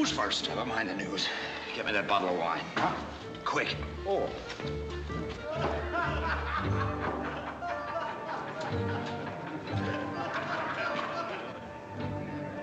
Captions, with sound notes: Never mind the news. Get me that bottle of wine. -Huh? Oh. -Quick. (MEN LAUGHING)